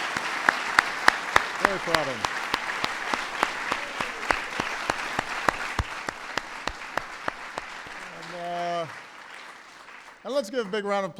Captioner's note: applause